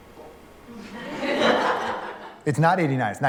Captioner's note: laughter